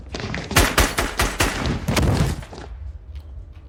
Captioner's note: gun firing